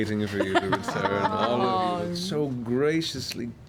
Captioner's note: laughs